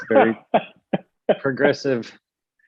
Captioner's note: chuckles